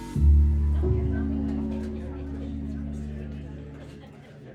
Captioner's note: restaurant chatter